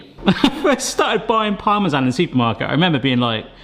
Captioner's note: laughing